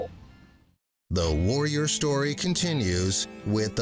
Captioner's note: voiceover